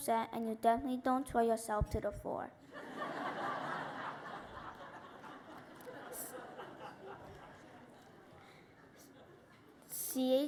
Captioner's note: laughter